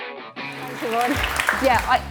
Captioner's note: audience applauding